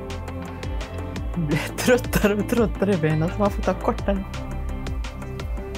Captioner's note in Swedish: skratt